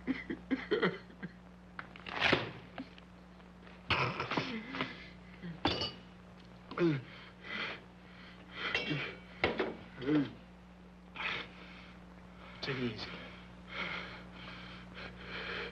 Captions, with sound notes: (Roy sobbing uncontrollably) (Sam swatting newspaper) (metal clanging) (Roy breathing heavily) - Take it easy, Roy.